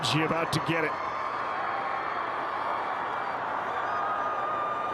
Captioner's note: fans cheer